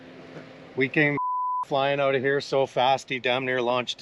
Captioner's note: beep